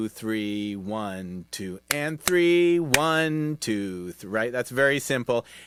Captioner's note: clapping; clapping